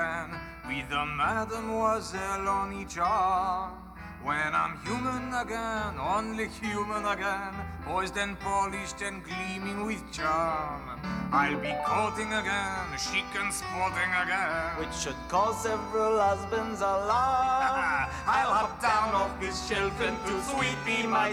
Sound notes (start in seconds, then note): 17.2 laughs